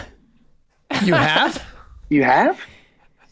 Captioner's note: giggling